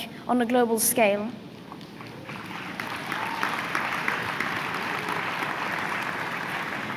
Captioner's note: applause